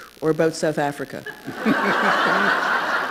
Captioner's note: laughter